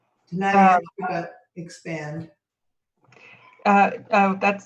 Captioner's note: speaking faintly